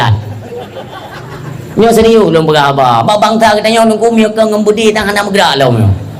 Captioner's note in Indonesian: tertawa